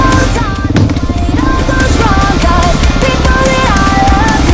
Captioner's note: tree hit